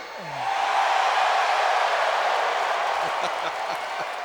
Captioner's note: audience cheers